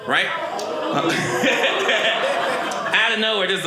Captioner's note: audience laughing